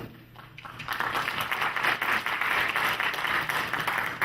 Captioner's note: clapping